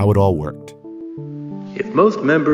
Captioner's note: sounbite of archived recording